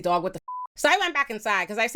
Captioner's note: beep